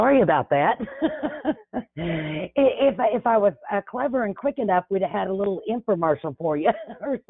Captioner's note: chuckles